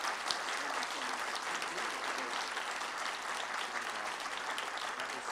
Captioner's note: applauding; background chatter